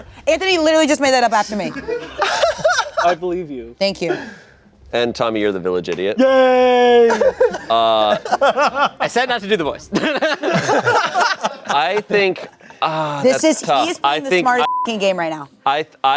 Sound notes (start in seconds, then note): 10.0 everyone laughing; 14.6 beep